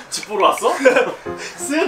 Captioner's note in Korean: 웃음소리